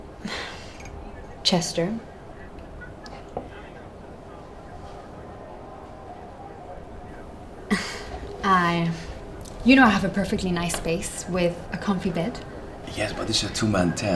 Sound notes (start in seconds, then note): 7.6 laughter